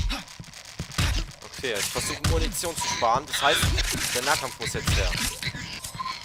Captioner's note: punching and hitting noises